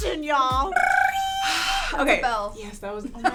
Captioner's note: imitates a bell